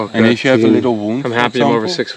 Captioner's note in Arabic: ثرثرة جماعية